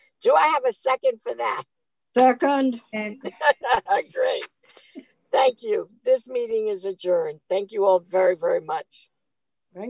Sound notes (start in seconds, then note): 3.2 laughing